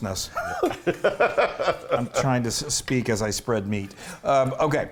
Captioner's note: laugh